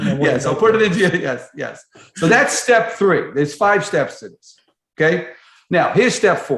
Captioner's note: laughter